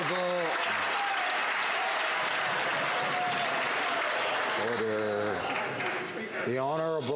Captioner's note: some Applause